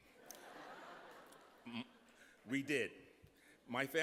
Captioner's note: laughter